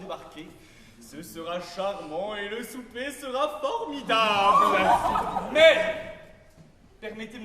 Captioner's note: shouts of joy